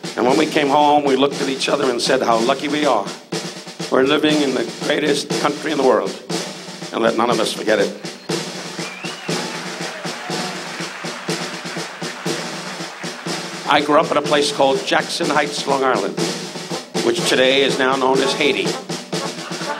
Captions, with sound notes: And when we came home, we looked at each other and said, "How lucky we are. We're living in the greatest country in the world." And let none of us forget it. (audience cheers) (percussive upbeat music) I grew up at a place called Jackson Heights, Long Island, which today is now known as Haiti.